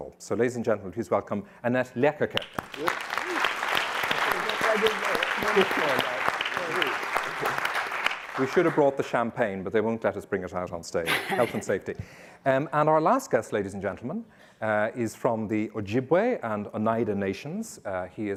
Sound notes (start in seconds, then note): 2.3 audience clapping